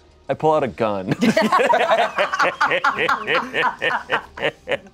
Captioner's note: everyone laughs